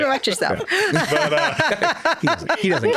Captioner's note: laughing